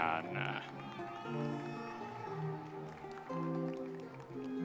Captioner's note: audience members cheering